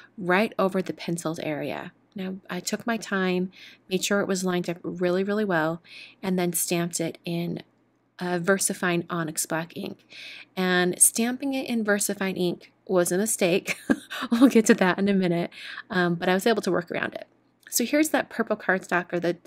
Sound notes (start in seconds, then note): 13.7 chuckles